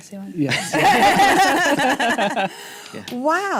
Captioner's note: laughter